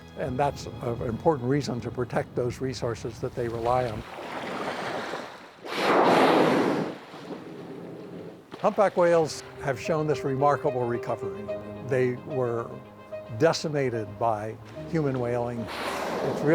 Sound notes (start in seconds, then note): 4.0 water lapping; 5.6 air hissing